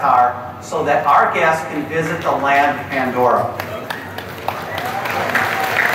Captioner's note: awkward chapek claps